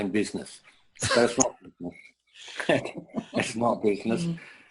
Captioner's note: interference